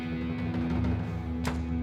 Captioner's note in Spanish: Portazo